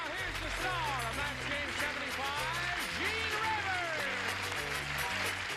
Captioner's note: audience applauding